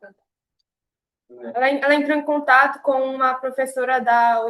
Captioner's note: speaking portuguese